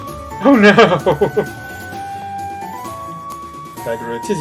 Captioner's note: laughing